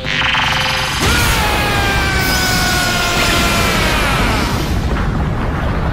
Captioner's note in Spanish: Gritos